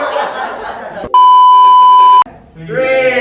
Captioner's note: everyone chuckles; beep sound effect